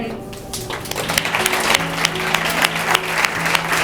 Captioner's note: audience applauds